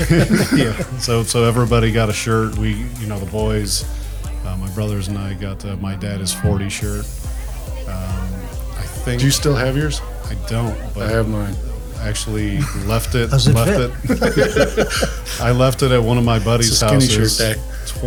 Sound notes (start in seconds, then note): 13.8 group laughs